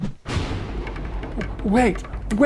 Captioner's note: loud explosion